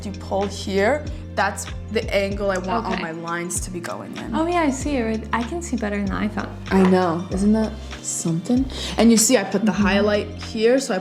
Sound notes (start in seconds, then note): none